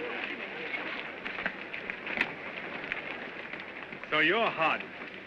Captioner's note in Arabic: الجمهور يتحادث بحماس; خطوات متقطعة